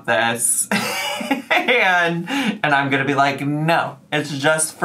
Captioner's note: laughs